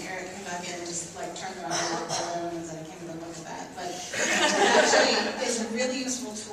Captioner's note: laughs